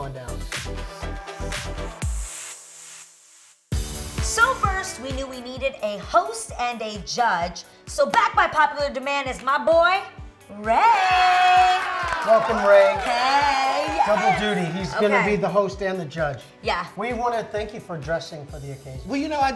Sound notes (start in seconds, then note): 1.2 upbeat music; 10.6 cheering